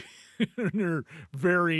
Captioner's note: laughing